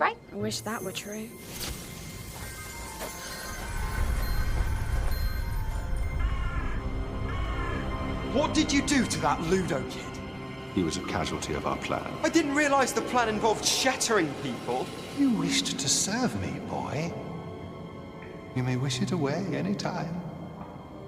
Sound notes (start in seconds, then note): 1.9 magical buzzing sound; 5.8 crow cawing